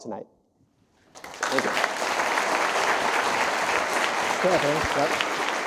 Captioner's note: audience applauding